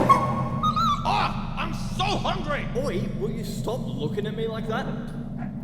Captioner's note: wolves arguing